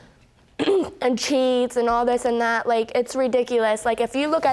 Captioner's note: clears throat